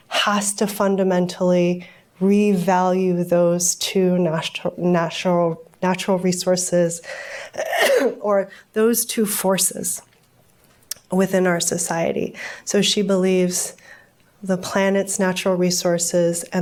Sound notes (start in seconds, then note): 7.5 coughs